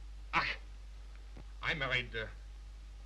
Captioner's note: scoffs